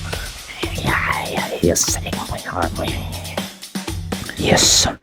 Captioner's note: cursing in arabic